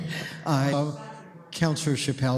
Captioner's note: laughter